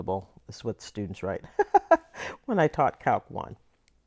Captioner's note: laughter